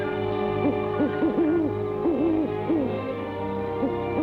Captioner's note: owl hooting